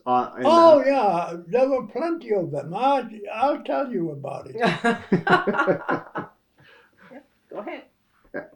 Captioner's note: laughter